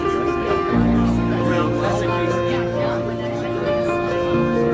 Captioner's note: people chattering